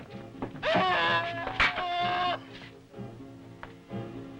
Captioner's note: cabinets crashing; Bruno screaming